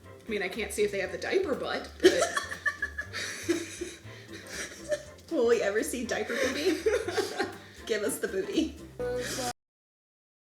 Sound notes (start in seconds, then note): 2.1 laughing